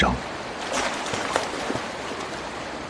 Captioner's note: roar of the river